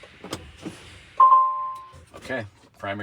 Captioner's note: brake pumping; beeping